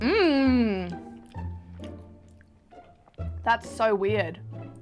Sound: chewing

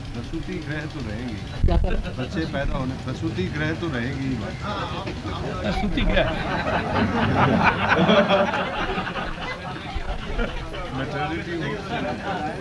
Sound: everybody laughs

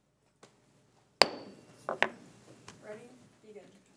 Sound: gavel banging

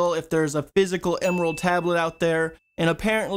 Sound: bell Dings

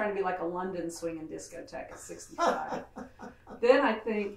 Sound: laughs

